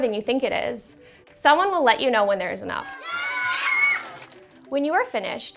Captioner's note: cheering